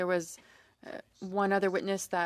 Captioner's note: speaking french